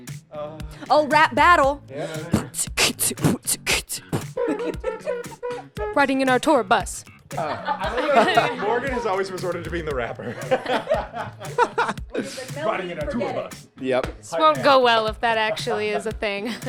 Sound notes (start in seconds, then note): 4.0 beatboxing; 5.0 rapping